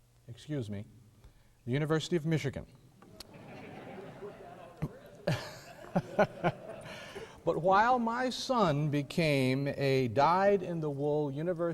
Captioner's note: audience boos